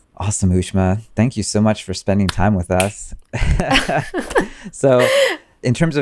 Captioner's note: laughs